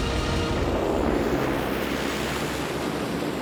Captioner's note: airplane taking off